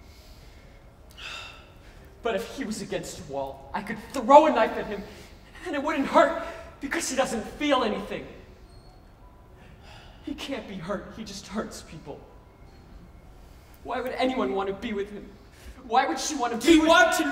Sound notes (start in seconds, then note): none